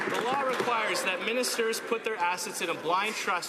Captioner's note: some Applause